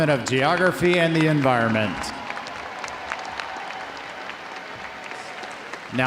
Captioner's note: audience applauding